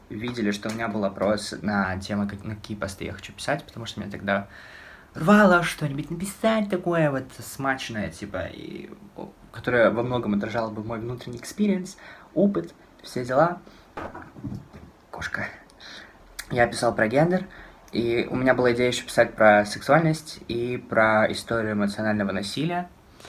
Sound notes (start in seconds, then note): 14.0 something falling in the background